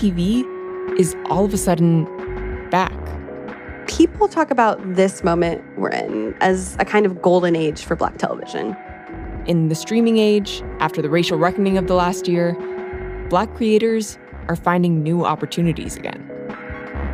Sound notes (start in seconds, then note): none